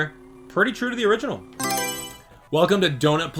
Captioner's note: Mario Selection Sound